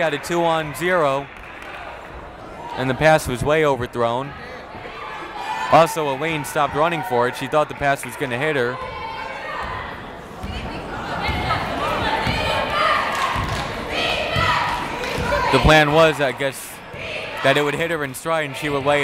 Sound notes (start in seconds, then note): 11.4 chattering; 14.9 cheering; 15.0 clapping